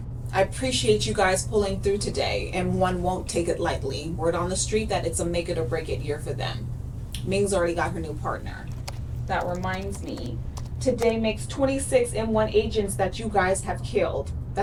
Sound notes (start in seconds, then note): 9.4 typing